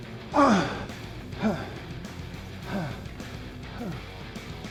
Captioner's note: upbeat music continues; Sheamus grunts